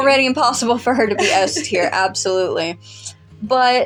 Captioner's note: laugh